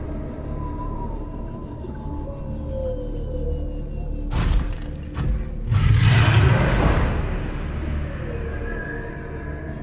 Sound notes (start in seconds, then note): 0.2 sparse tense music; 5.7 monster roaring